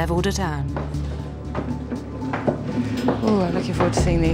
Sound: car rattles and rolls

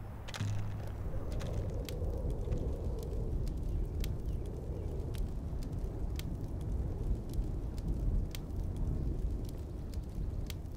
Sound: light wind blowing

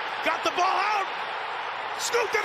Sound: spectators cheering

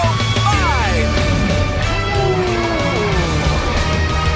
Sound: roaring

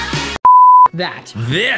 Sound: beep

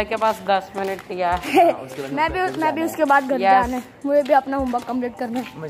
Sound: laughs

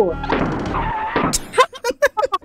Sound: boom

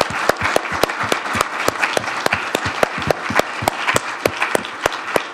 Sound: audience applauding

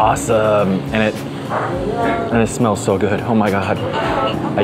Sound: sniffs

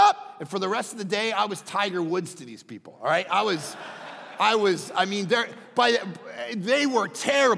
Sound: crowd laughing

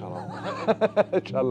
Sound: chuckles

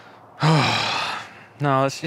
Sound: sighing

